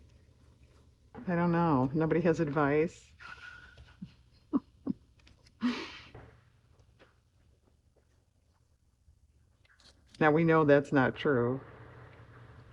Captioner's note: laughs